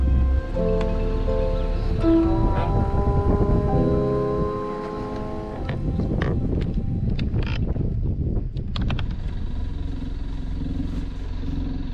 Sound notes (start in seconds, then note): 1.9 upbeat music; 2.6 motor whirring; 6.2 knob whirring; 9.1 motor whirring